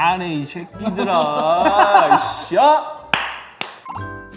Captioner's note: he he he